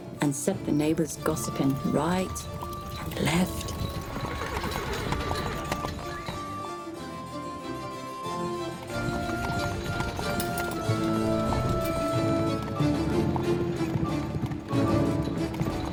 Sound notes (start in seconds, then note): 3.9 horse whinnying; 6.0 upbeat music